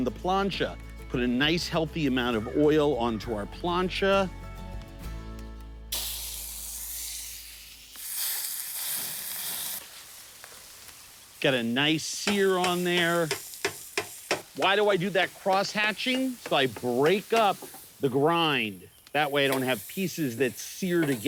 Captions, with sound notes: Put a nice healthy amount of oil onto our plancha. (plancha sizzling) Got a nice sear on there. Why do I do that crosshatching? So I break up the grind, that way I don't have pieces that sear together.